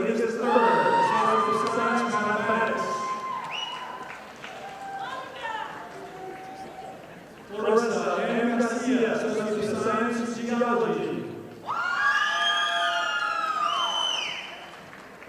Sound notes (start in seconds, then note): 4.1 audience applauding; 11.9 audience applauding